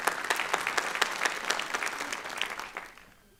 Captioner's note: applause